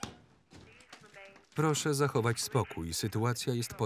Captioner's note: intercom